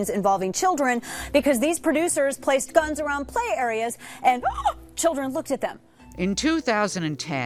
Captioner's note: gasp